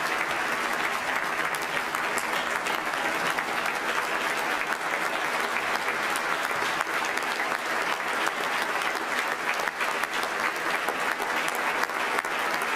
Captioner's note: applause